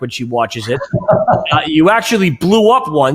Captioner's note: laughs